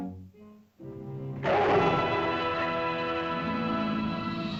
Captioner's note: dramatic whimsical music; dramatic music; lizard roars; dramatic music